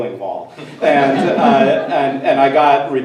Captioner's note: everyone laughs